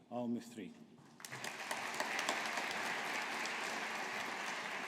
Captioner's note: audience applauding